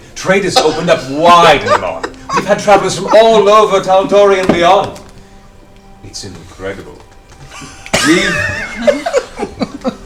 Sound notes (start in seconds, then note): 7.4 all giggle